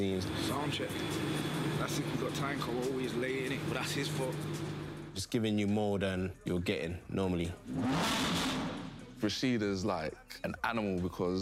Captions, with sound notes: - Sound check. But that's if we got time, cause we're always late, innit. But that's his fault. - Just giving you more than you're getting normally. (engine revving) - Rashid is like an animal,